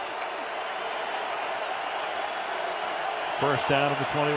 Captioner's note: crowd cheering